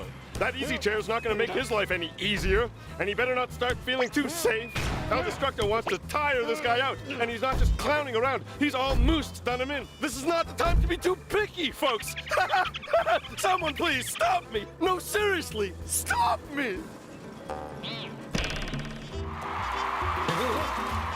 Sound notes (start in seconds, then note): 11.9 laughs deliriously; 19.2 cheers and applause